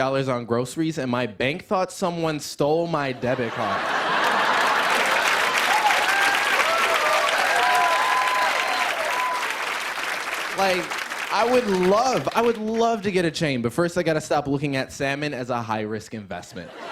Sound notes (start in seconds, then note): 3.1 laughter; 5.7 cheers and applause